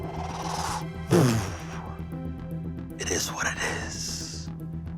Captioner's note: imitaes air whooshing